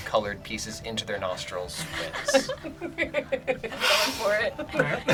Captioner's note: group laughs; laughs